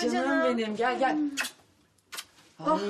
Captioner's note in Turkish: Öpüşme sesi